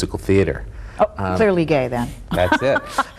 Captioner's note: laughs